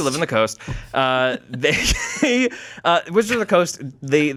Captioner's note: laughs